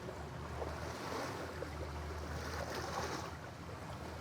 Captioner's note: waves splash